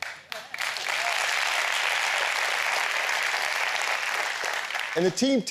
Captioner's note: applause